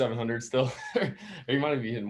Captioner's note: laughs